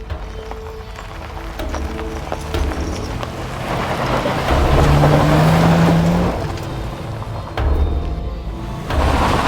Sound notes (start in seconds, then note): 2.0 ominous orchestral music; 4.7 engine revving